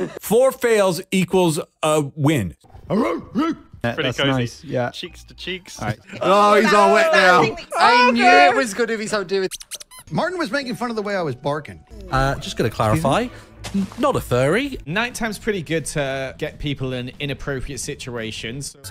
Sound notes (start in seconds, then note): 2.6 barks; 9.4 squeaky toy sfx